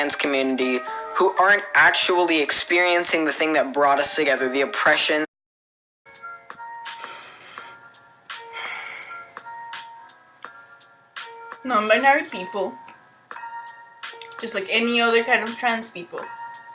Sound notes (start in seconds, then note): 6.5 deep angry sigh